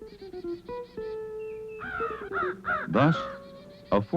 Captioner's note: crow cawing